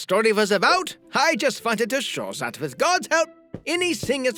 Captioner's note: none